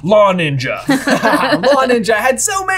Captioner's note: laughing amusingly